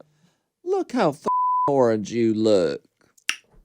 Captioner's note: beep